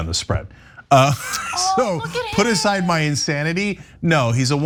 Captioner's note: laugh